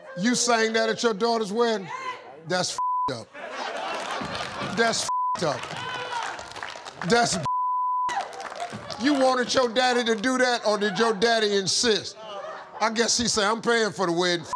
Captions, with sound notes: You sang that at your daughter's wedding? That's (beep) up, that's (beep) up. That's (beep). You wanted your daddy to do that? Or did your daddy insist? I guess he said, "I'm paying for the wedding,